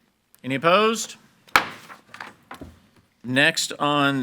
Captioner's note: gavel bangs